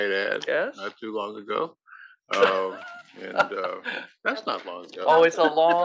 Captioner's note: laugh